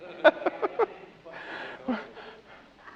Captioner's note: laughs